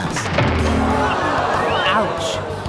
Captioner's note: audience laughing